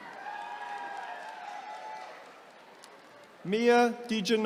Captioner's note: attendees cheering